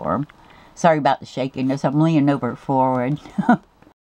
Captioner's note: laugh